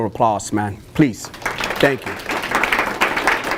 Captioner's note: applause